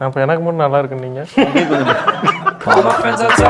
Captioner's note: laughs